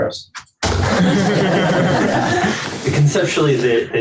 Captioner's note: laughter